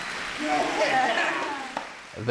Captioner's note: laughing